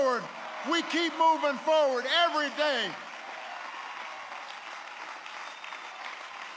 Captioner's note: applause